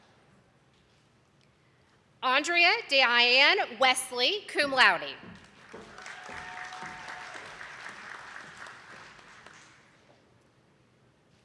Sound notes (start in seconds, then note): 5.3 attendees clapping